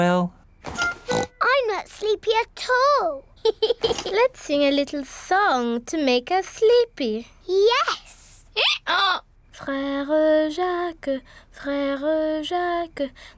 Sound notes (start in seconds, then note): 0.8 oinks; 3.4 giggles; 8.3 brays